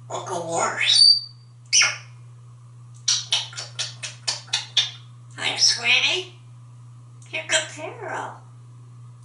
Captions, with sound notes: What´s a horse? [kissing sound] Hi, sweetie. You´re good girl.